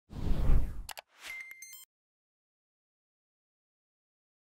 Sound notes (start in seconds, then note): 0.1 logo whooshing; 0.9 keyboard clicking